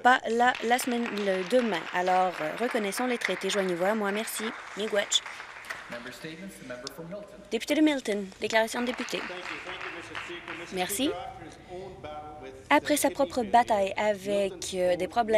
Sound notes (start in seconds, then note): 8.6 some Applause